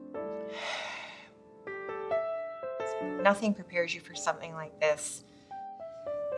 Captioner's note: sighs